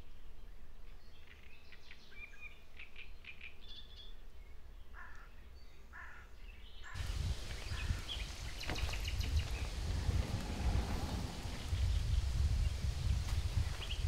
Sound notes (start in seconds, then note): 2.5 bird humming